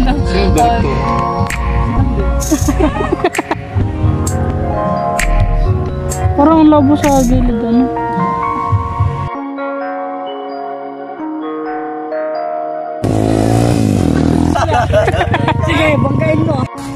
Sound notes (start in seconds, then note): 2.4 laughs